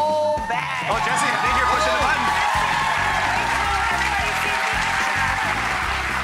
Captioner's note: audience cheering and applause